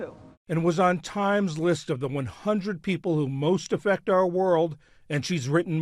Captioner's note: voice-over